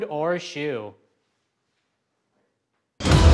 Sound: complete silence; dramatic music

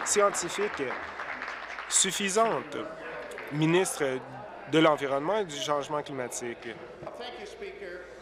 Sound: applause

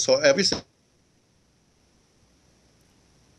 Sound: audio cuts out

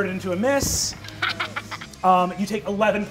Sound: laughs

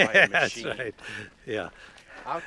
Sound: laughs

